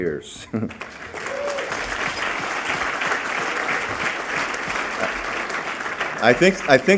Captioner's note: applause